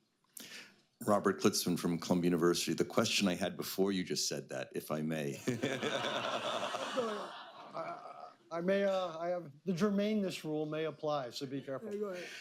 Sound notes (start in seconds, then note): 5.4 laughter